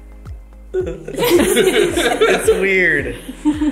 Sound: everyone laughs

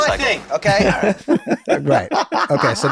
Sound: they laugh

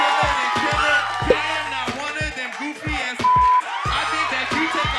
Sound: beep

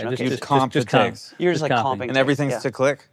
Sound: group chattering

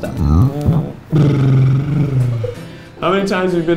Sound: gives a raspberry

